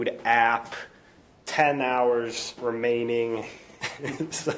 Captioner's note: laughing